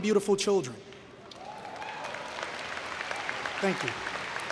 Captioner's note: cheering and Applause